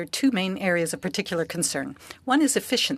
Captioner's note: speaking French